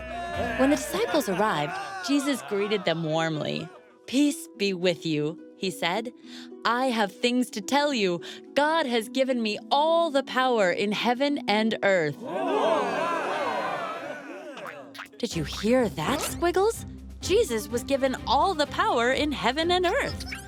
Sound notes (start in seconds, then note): 12.2 cheering